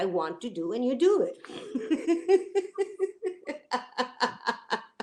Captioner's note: laughter